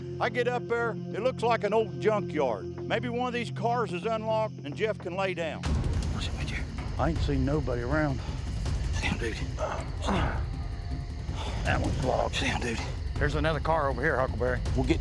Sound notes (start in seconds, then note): 5.8 whispering; 9.5 grunt